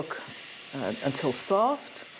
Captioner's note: sizzling sounds